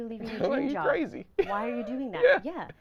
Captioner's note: laughing